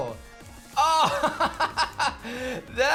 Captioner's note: laughs